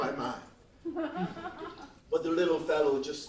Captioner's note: laughs